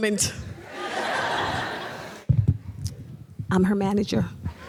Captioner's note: audience laughs